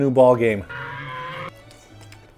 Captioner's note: loud dinosaur screech